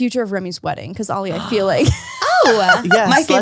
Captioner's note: laughs